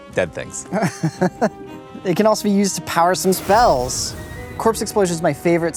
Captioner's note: laughs